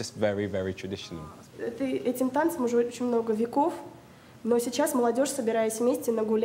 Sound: speaking in foreign language

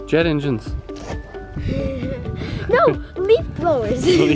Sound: laughing

